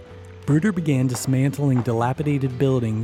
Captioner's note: voiceover